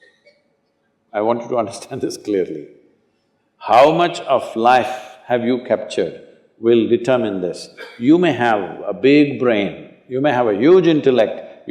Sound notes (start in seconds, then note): 3.4 laughs